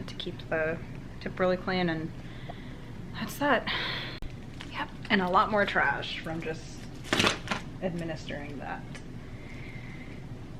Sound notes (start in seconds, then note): 7.0 bin clatters